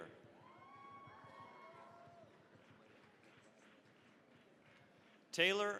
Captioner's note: cheering, applause